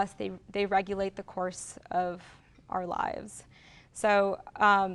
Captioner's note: none